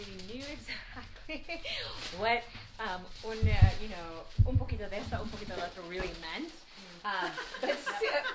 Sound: in Spanish

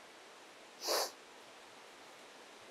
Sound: Jim sniffs

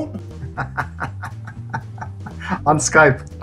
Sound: laughs

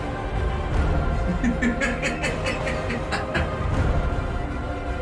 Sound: cackling

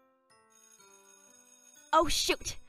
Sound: school bell rings

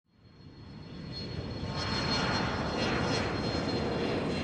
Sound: airplane flying

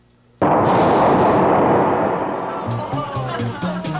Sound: loud blowing

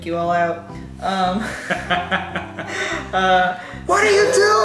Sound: laughing

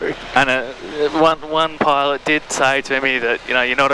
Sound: laughing

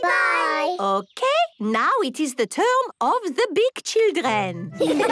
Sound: laughter

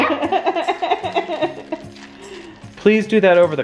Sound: laughing

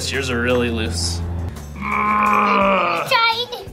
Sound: groaning noise

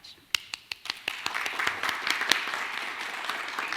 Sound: clapping

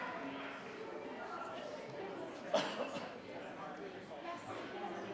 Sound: attendees chattering

